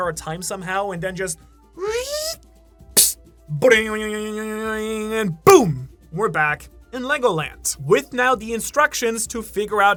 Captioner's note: rubber band sound